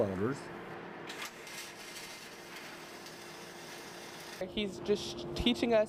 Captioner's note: welding sparks